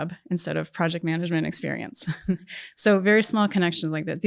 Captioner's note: chuckles